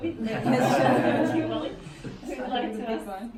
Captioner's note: laughing